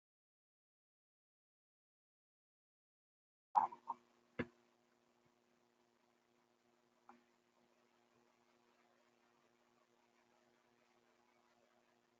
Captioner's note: pause